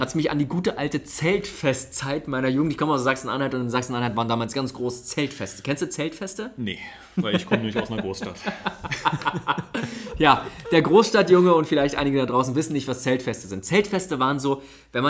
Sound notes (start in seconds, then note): 7.1 laughs